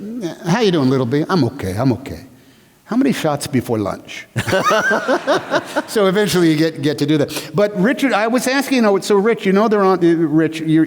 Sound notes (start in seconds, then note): 4.3 laughter